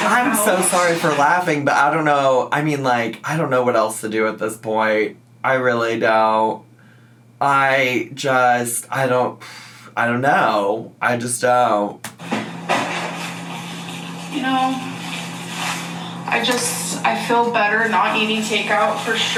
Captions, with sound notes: - I'm so sorry for laughing, but I don't know. I mean like, I don't know what else to do at this point. I really don't. I just, I don't (sighs) I don't know. I just don't. - You know, I feel better not eating takeout for sure.